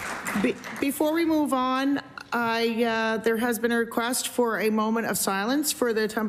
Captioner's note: applause